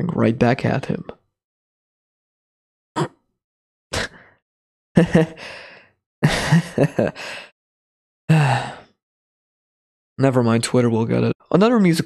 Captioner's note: chuckles awkwardly, pause